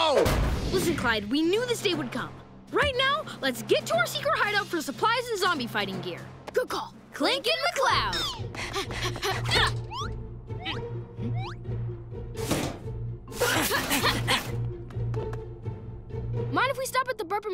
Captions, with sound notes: Listen, Clyde, we knew this day would come. Right now, let's get to our secret hideout for supplies, and zombie fighting gear. - Good call. - Clincoln McCloud. [panting] [grunting] Mind if we stop at the Burpin' Burger?